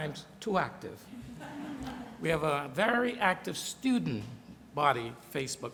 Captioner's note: laughter